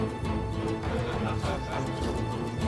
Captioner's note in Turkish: Gülme sesleri